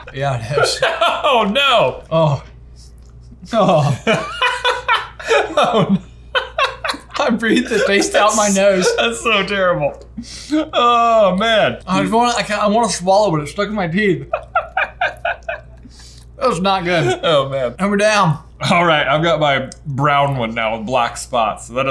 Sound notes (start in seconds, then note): 3.4 laughs; 14.0 laughs